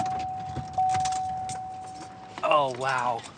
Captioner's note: car beeping